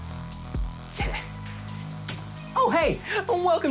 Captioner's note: chuckles